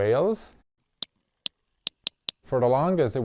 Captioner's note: whale clicking